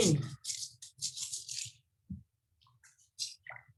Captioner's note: scraping fingers